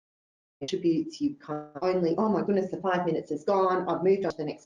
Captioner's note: audio distorts